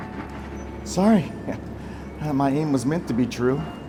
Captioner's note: chuckles